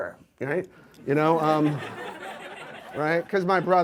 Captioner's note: audience laughs